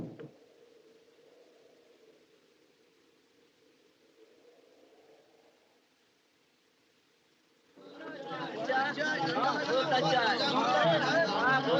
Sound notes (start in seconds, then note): 0.0 drums Stop; 7.8 men Chattering